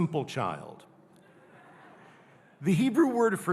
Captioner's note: audience laughing